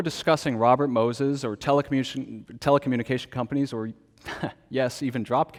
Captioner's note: laughs